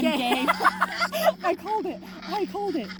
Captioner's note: laughing